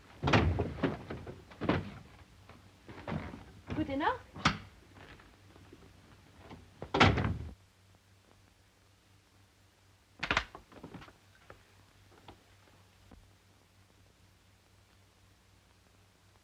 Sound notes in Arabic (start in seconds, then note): 0.2 يصدر صوت خشخشة في الخزانة; 0.2 يغلق الباب; 6.8 يغلق الباب